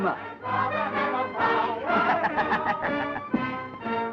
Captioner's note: laughing